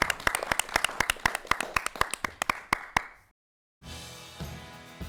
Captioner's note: applause